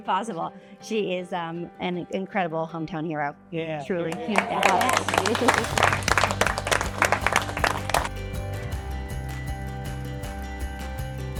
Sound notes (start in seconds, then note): 4.0 all applauding; 7.2 gentle music